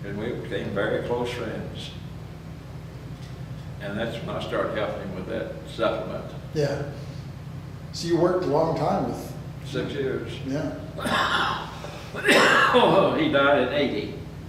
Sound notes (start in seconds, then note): 10.9 coughs